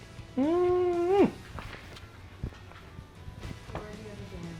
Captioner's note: sighs delightedly